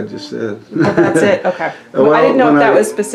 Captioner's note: laughter